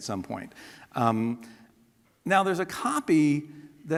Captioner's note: none